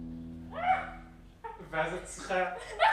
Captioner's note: shouting; speaking foreign language